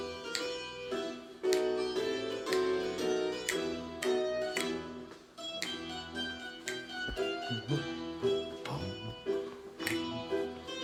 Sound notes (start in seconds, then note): 7.1 humming